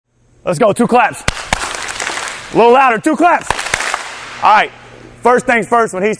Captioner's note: clap clap